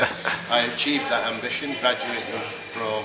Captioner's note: laughs